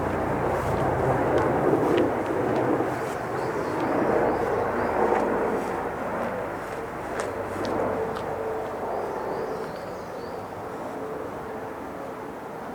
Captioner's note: motor rumbling